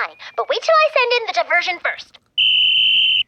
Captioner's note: blows whistle